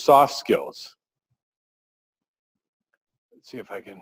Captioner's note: pause